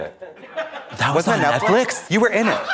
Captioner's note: blonde Women in unison